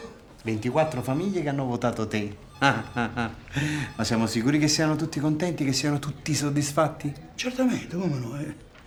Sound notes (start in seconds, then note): 2.5 fake laughing